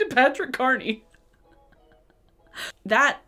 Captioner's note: laughing